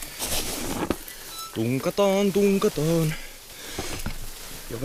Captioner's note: humming